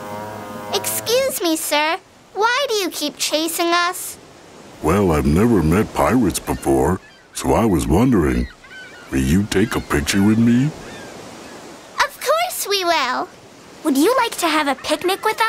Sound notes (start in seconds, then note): none